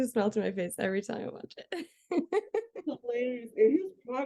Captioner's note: laughs